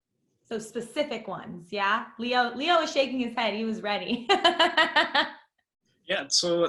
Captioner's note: laughter